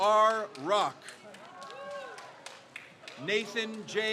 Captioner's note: crowd cheers